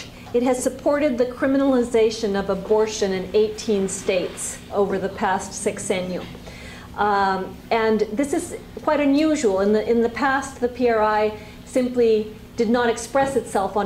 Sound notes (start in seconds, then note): 0.0 spanish; 6.3 spanish